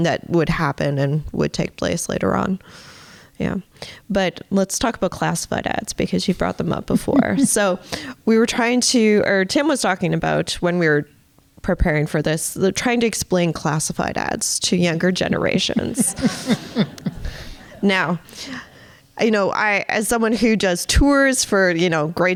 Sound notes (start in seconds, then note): 15.7 audience laughing